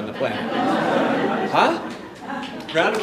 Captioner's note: audience laughing